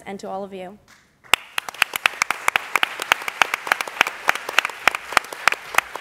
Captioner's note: applause